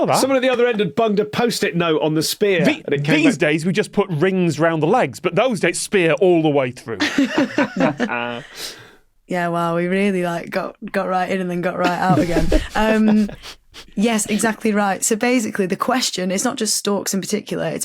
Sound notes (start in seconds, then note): 7.0 laugh; 11.8 others snickering